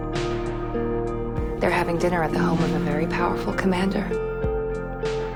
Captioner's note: voiceover